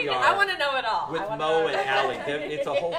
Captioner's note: laughter